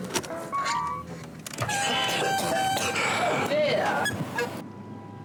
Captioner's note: chaotic coughing sounds